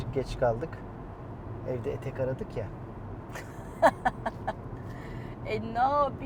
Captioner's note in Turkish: kahkaha